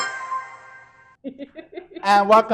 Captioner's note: laughing